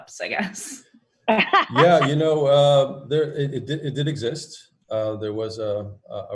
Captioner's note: laughing